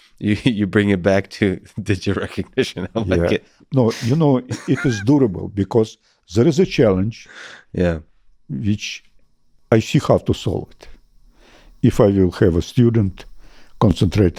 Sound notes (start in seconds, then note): 4.4 laughs